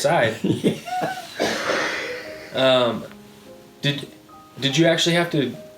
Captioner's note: chuckling